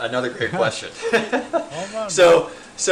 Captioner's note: men laughing